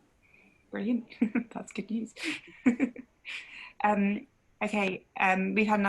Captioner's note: laughs